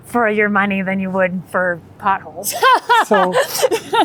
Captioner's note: laughing